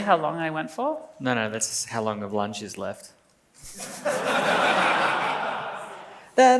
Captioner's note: laughs